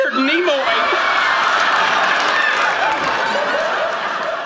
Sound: audience laughing

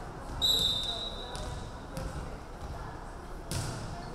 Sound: referee whistling

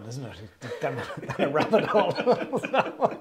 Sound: both laughs

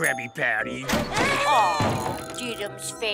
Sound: crying

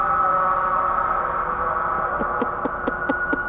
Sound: machinery echoing loudly; laughing

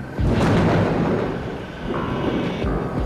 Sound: thunder rumbling

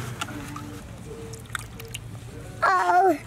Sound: water splashing

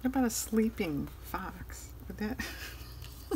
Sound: laughs

